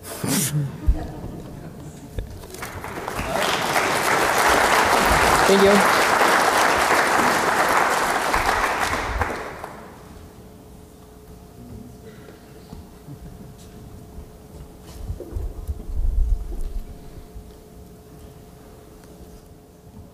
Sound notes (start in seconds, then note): 0.1 applause; 0.1 laugh; 6.2 applause